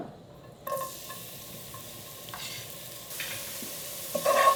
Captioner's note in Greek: τσιτσίρισμα